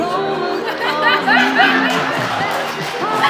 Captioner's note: laughter